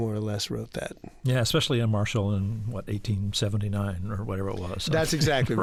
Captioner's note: laughter